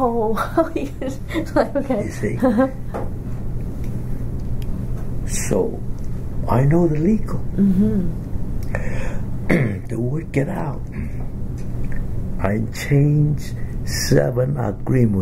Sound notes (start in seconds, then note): 3.1 laughs; 9.4 coughs